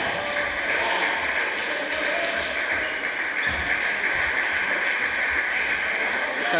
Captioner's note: applause